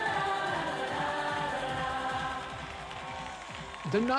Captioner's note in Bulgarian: Аплодисменти и пляскане